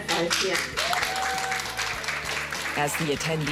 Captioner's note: applause